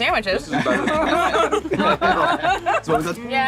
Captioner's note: group laughing